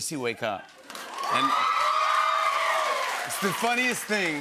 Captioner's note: cheers and applause